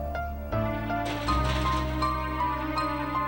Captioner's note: knocking on the door